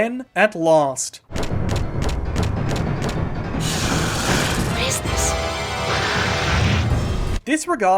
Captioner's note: rapidly approaching footsteps followed by raptor snarling